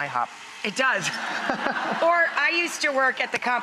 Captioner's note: audience laughs